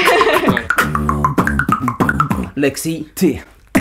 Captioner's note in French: beatbox